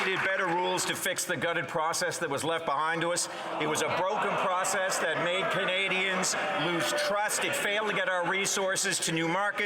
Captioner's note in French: voix de l'interprète